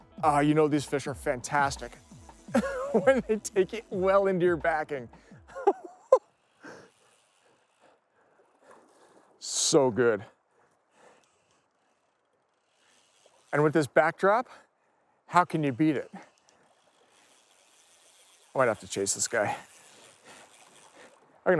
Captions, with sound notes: Ah, you know, these fish are fantastic. (chuckles) When they take it well into your backing. So good. And with this backdrop, how can you beat it? I might have to chase this guy.